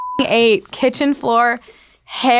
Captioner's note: beeping